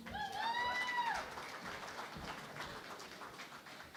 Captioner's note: cheering and Applause